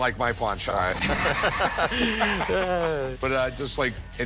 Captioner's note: laughter